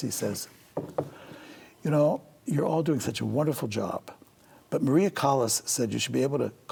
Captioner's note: none